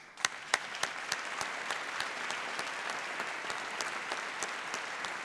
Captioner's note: applause